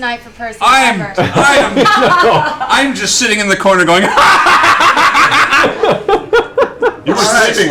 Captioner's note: maniacal laughter